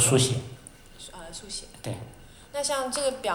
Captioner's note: Mandarin